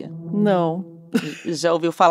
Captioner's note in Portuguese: risos